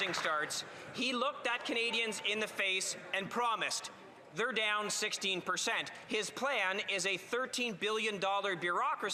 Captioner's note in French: applaudissements; voix de l'interprète